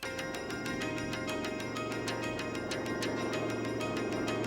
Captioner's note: engine whirring